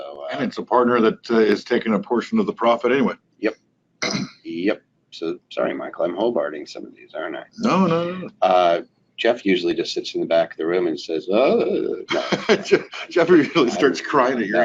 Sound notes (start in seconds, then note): 11.1 laughing; 11.3 voice warbling